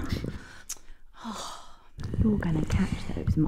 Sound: exhales sharply

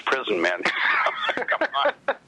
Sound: laughs

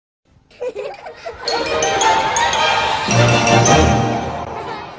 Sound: kids laughing as music plays

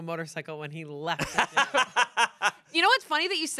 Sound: laughs

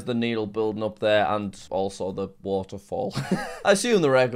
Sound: laughs

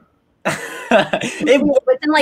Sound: laughing

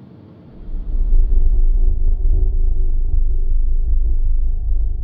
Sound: deep rumbling sound

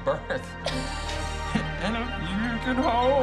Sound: both laughing; sings

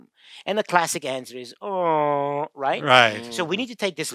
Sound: groans

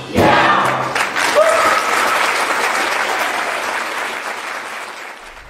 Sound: applause

